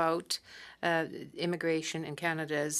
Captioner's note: speaking French